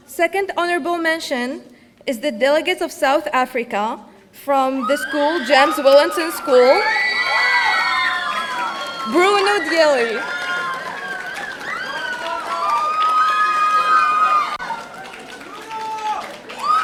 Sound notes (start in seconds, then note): 6.7 audience cheering